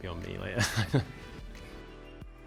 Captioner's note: laughter